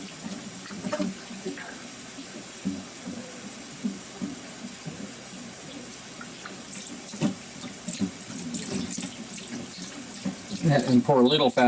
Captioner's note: mixer whirring